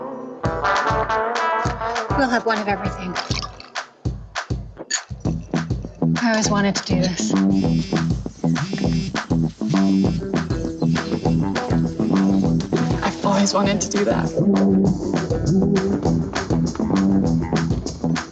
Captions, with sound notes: - We'll have one of everything. (glasses clinking) I always wanted to do this. (phone buzzing) (upbeat music) - I've always wanted to do that.